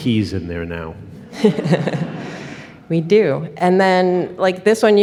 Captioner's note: laughs